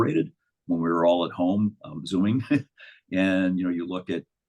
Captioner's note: chuckles